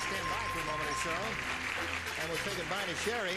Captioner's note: applauding, theme music